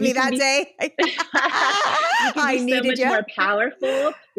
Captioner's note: laughing